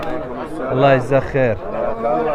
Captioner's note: Arabic